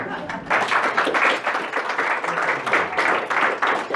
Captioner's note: audience clapping